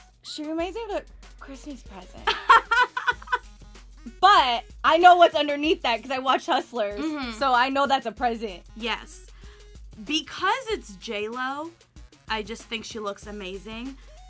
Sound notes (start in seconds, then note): 2.3 laughs